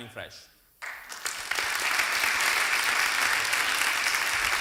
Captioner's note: applause